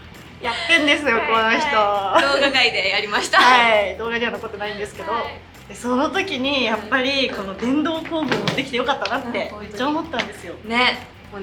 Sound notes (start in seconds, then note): 4.7 laughs